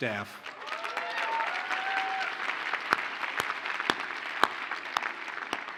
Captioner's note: audience cheers and applauds